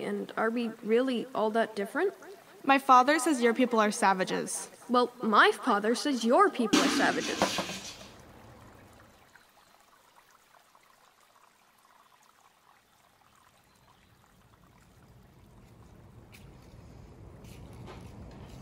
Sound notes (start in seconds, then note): 6.7 crash of the bucket falling over; 7.5 sound of of waves lapping on a shore